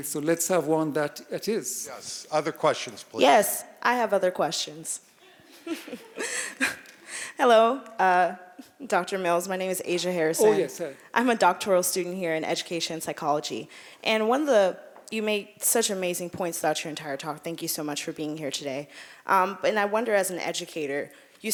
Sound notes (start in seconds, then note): 5.3 audience laughing